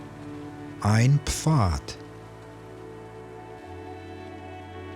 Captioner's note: german